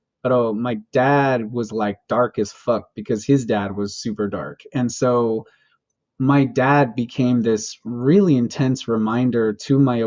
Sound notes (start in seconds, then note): none